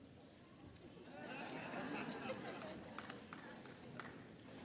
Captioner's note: audience laughs